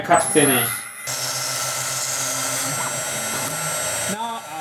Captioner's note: CNC machine noises